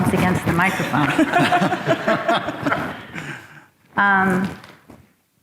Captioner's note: audience laughs